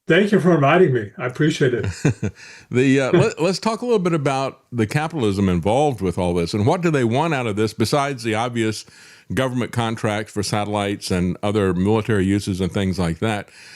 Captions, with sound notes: Thank you for inviting me, I appreciate it. (Laughing) Let's talk a little bit about the capitalism involved with all this, and what do they want out of this, besides the obvious government contract for satellites and other military uses and things like that?